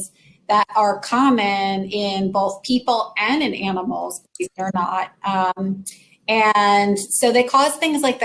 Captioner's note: technical glitch